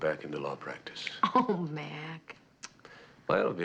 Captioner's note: chuckling